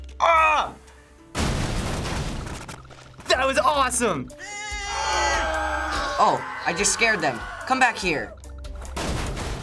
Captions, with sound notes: Oh! That was awesome! (goat bleats and people scream) Oh, I just scared them. Come back here!